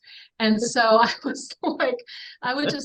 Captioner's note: chuckles